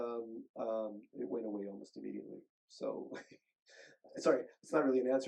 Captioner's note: chuckles